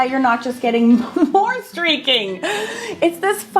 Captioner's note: laughing